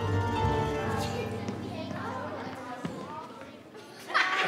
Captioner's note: children chatting; audience laughing